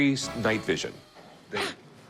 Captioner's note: laughs